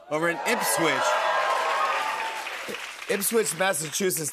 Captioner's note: cheers and applause